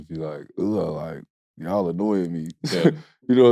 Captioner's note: laughs